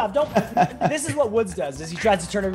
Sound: laugh

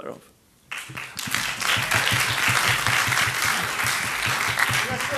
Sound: audience applauding

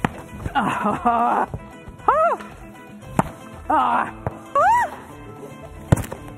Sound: laughter

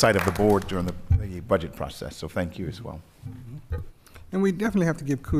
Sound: applause

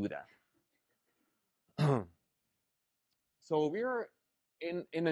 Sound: cough

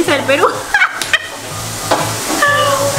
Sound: crazy Laughter

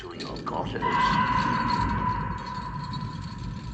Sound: screaming nearby

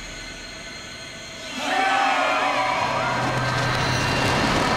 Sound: cheering

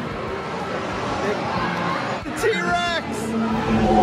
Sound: dinosaur roars

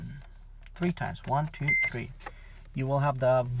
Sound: beeping

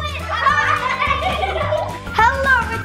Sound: all giggling

